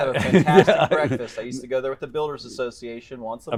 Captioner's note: laughing